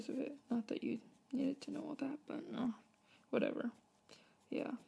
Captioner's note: mumbles